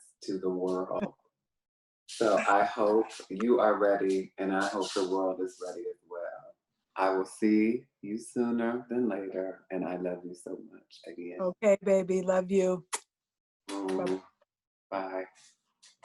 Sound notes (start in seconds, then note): 2.3 chuckles; 13.7 smacking lips; 13.7 smacks lips